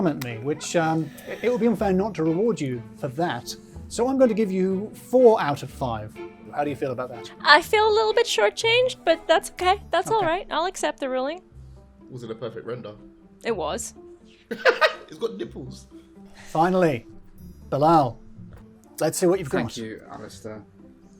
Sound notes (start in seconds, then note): 14.2 bouncy upbeat music; 14.5 laughing